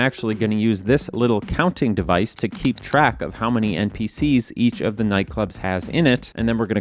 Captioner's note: click click click